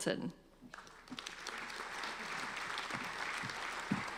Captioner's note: applauding